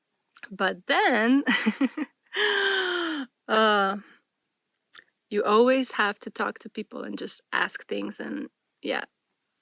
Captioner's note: laughter; gasps